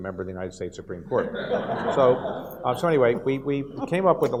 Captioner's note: audience laughs